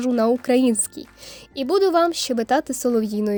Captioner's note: українською